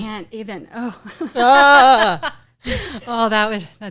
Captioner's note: laughs